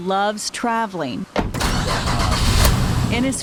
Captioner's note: engine revving